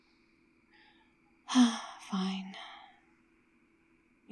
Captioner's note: sighs